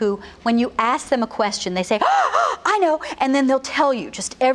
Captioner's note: gasps twice